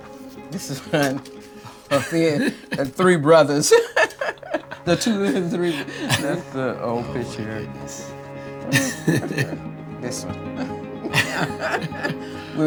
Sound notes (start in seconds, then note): 4.1 laughs; 8.6 both laughing